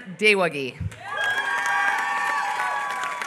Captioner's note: applause